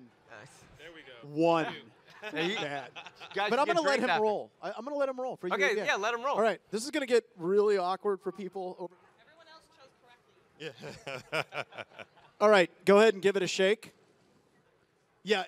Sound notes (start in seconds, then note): 10.8 audience laugh